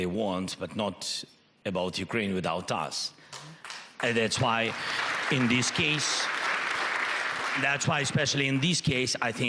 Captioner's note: applause